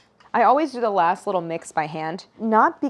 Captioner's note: none